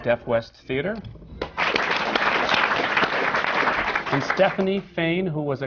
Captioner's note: applause